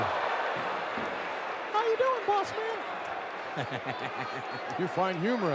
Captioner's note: laughs